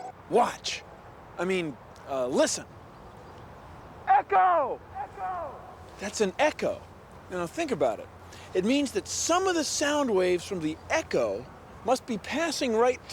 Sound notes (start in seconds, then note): 4.0 echoing